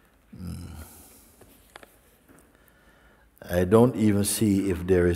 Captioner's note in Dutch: none